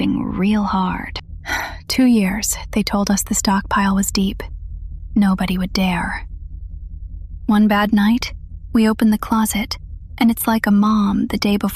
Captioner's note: sighs